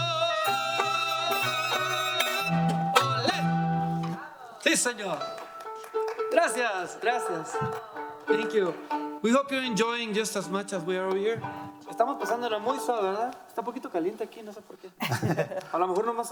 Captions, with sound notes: (audience applauding) - Thank you. We hope you're enjoying just as much as we are over here. (speaking in foreign language)